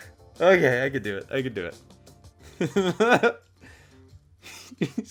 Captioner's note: laughing